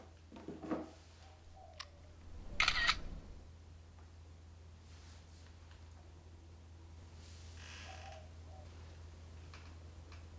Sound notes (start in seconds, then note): 2.5 digital clicking; 7.2 creaking